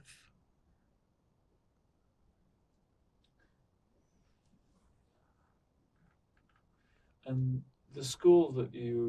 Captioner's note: pauses 6 seconds